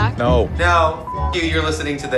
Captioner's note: beep